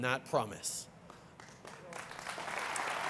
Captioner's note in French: Applaudissements